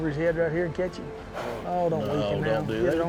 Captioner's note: horse blusters